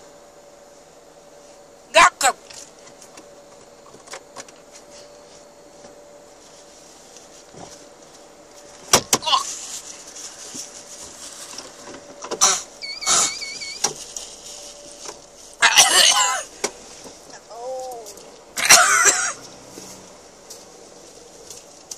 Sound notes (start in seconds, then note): 12.4 spits again; 15.6 coughs; 18.5 coughs again